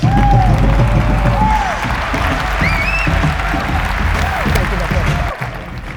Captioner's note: crowd applause and cheers